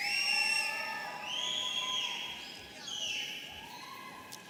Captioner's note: audience cheering